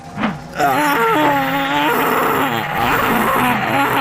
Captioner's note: Delta screaming